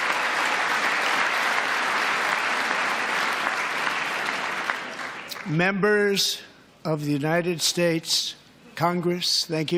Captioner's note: applause